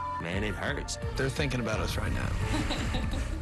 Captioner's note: giggles